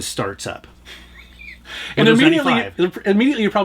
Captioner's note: laughs